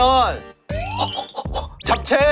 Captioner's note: excited gorilla